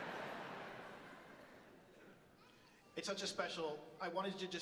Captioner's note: audience laughs